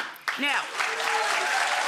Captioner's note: audience applauds